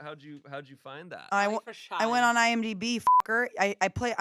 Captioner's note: beep